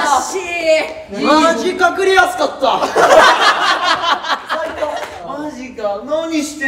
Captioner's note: laughs